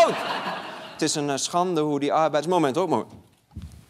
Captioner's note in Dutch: gelach; gelach